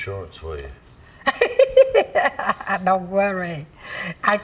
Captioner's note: laughs